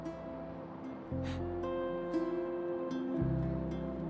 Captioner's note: sniffs